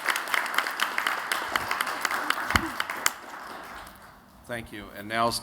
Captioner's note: �applause�